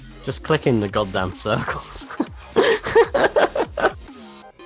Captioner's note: laughter